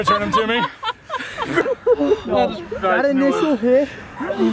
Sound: laughing

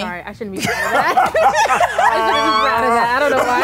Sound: Will laughs

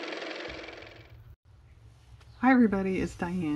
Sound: car motor

